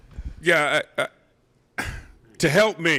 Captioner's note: chuckles